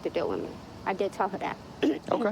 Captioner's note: clearing throat